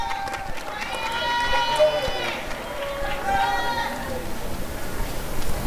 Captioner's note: applause and cheering